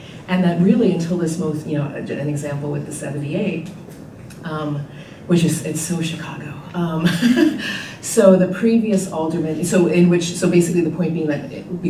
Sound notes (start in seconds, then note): 7.3 laughing